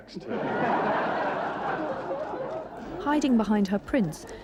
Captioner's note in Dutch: publiek lacht